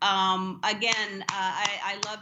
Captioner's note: applause